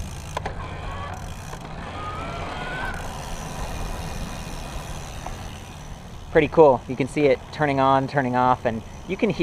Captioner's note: motor whirring noise; cassette clicking noise